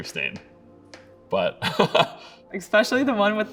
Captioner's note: laughing